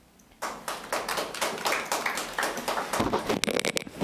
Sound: clapping

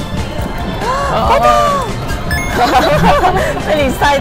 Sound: laughs

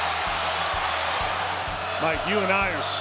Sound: crowd cheering

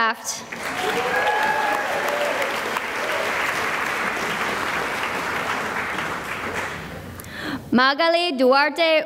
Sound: cheering and applause

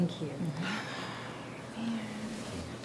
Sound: sighs

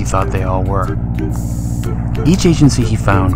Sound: sound of airplane

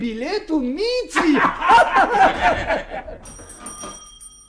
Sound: everyone laughs

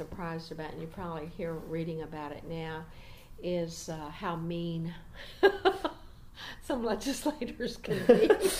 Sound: laughs

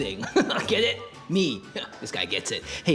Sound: chuckle

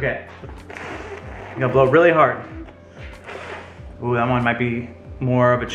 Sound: blowing

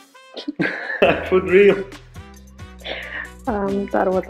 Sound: laughs

